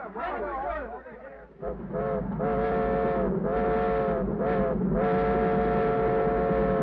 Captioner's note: train chugs; train horn whistles